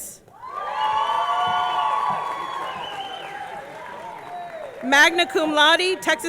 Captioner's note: audience cheering; audience clapping